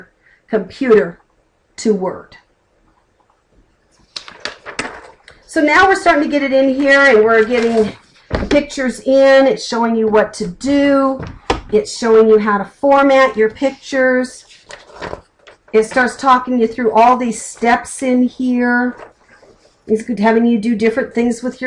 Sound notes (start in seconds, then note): 3.9 flipping a page; 14.4 flipping a page